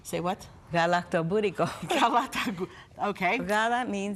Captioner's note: foreign language